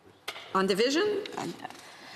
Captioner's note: speaking French